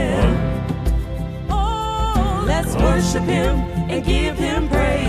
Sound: humm; humm

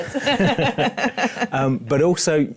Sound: laughter

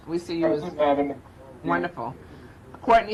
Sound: faintly speaking

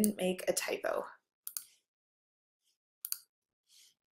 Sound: clicks

